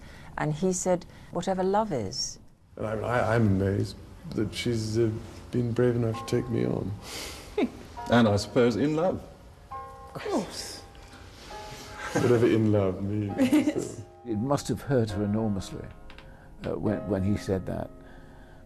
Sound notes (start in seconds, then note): 7.5 Diana laughs; 8.0 voiceover